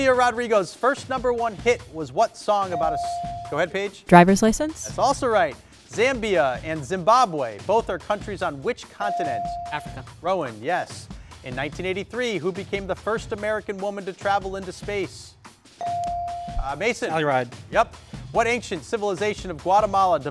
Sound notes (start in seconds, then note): 15.8 bell dings